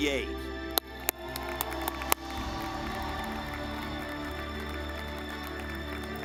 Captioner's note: dramatic music; audience clapping